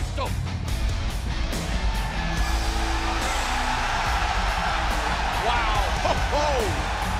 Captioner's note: crowd cheering